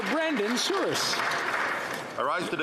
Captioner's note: some Applause